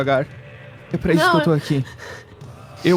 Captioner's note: crying